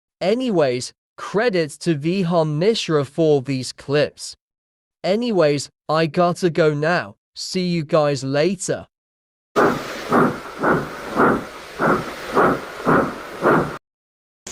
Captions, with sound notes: Anyways, Credits to Vihaan Mishra for these Clips! Anyways, I Gotta Go Now, See you Guys Later (Chugging Away)